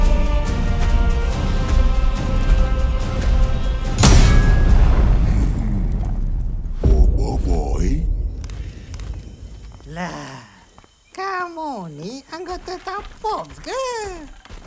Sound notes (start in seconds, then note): 4.0 echoing clang